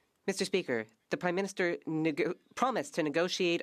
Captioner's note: speaking French